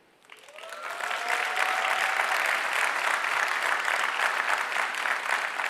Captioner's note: audience cheering and applauding